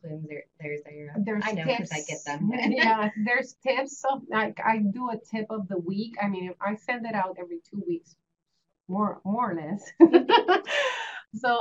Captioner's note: laughter